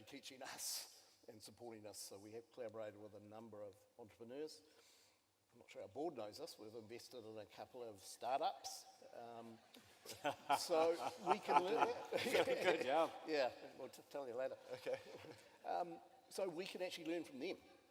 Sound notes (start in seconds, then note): 10.0 laughter